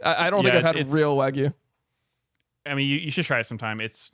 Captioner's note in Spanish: risas